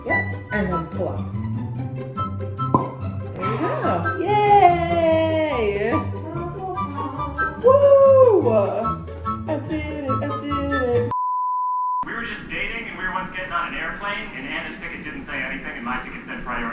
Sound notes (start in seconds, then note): 3.4 sigh of relief and success